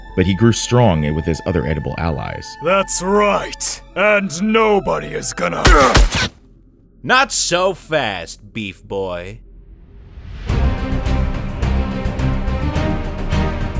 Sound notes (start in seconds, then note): 5.6 grunting; 10.7 suspenseful music